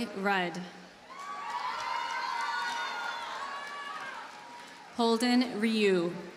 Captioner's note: audience cheers and applauds